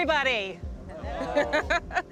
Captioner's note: laughter